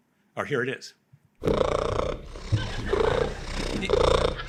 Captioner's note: cat purring